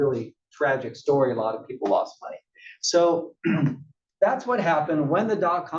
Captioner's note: cough